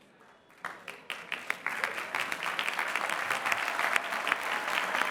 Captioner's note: applause